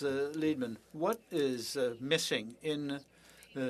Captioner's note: speaking French